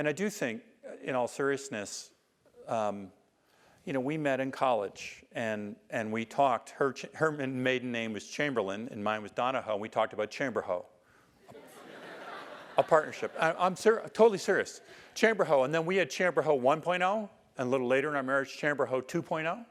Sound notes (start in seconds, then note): 11.5 laugh